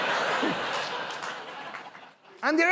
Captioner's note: laughter